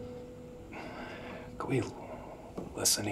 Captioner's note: Ben sighs